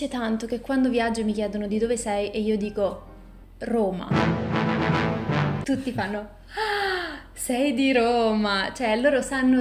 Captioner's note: suono di sorpresa